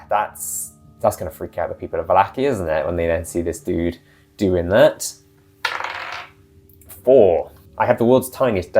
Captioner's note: die roll